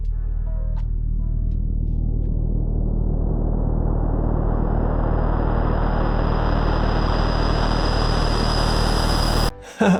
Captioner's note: satanic noises